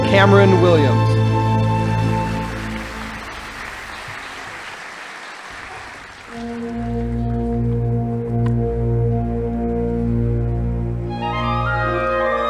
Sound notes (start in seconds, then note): 1.4 audience applauding; 6.2 uplifting orchestral music